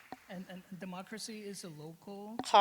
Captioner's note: applause